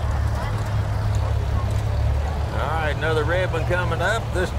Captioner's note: revving continues